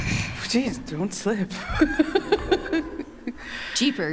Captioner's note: laughter